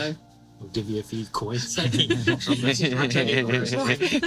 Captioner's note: group laughing